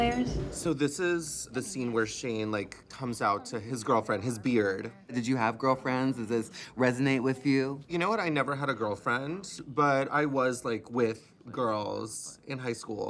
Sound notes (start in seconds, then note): none